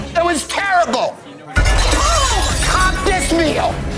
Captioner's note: cutlery clatters